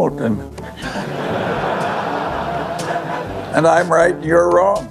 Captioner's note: laughter